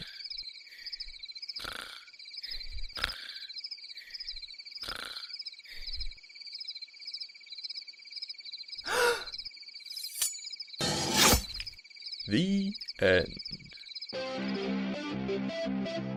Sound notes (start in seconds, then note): 1.6 snoring; 8.9 gasp!; 10.9 chop